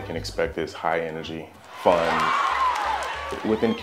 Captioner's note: audience cheers